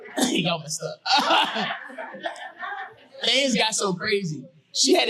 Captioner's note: audience laughing